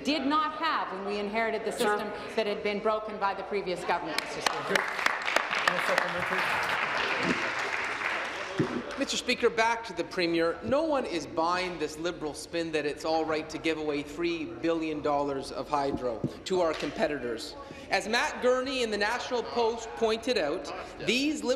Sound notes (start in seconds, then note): 9.2 applause